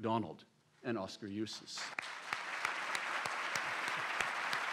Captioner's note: applause